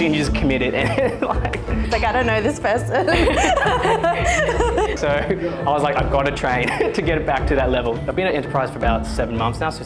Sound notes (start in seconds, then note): 0.8 laughs; 3.0 group laughing